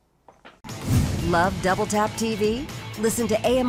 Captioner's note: voiceover